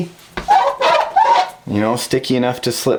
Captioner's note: squeaking